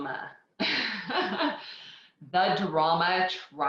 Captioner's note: laughs